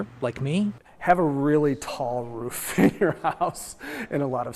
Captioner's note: laughs